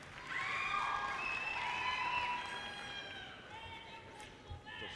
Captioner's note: audience cheers and applause